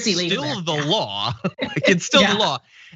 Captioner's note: laugh